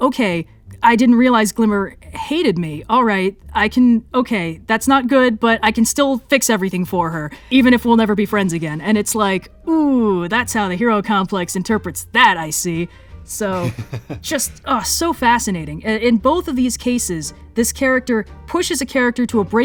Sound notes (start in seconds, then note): 13.5 laughs